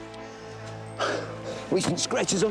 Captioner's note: John sighs